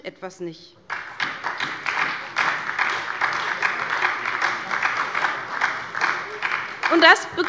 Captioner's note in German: Beifall bei der SPD